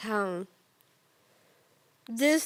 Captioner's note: soft breathing